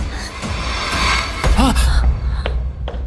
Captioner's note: sigh